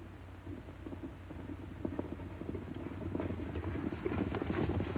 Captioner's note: horses galloping